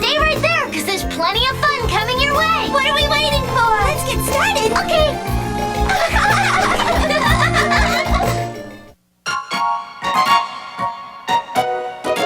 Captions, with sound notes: - Stay right there 'cause there's plenty coming your way! - What are we waiting for? - Let's get started! - Okay! (giggling) (playful music)